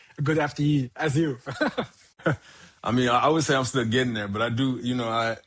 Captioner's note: chuckles